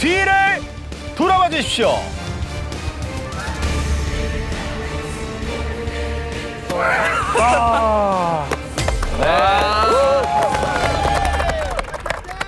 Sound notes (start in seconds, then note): 6.8 smiling, laughing, amazed